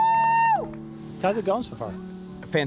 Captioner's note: screaming